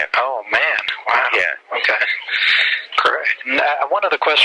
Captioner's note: laughs